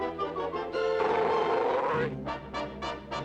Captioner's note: growling